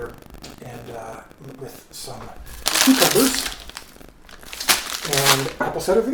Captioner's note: bag crinkles